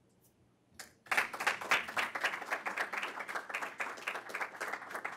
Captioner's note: audience applauding